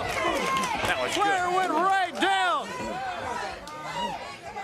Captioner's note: crowd cheering